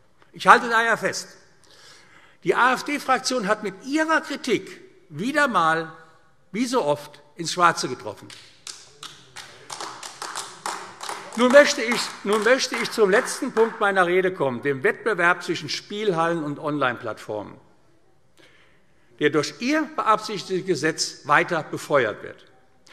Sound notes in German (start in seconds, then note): 8.2 Beifall AfD